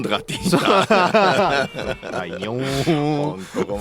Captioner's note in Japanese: 笑い